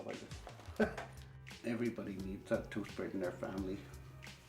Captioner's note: chuckles